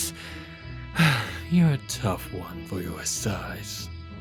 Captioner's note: sigh